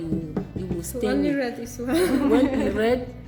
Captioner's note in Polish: śmiech